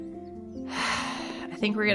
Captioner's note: sighhhh